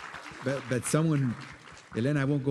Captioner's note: applause